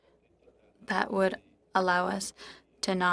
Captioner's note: speaking French